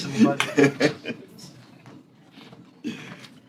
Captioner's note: laughter